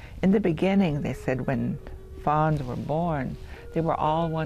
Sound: speaking native american

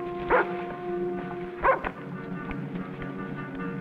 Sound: dog barks

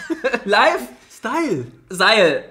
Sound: laughs

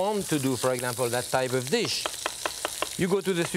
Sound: knife thudding

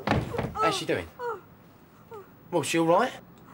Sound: Sonia groaning

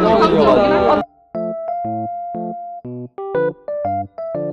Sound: laughing

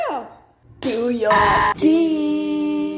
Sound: screams in italian; diiiiiing!!!!

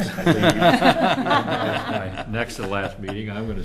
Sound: laughter

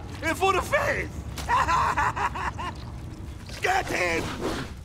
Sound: laughing

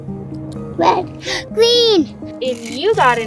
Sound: gasps

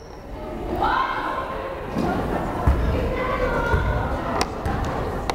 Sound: crowd chattering

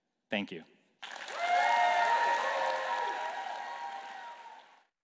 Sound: applause

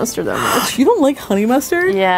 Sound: gasps

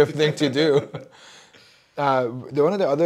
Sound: group laughing

